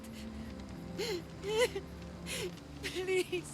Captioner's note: sobbing